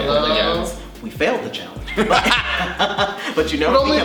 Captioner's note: laughs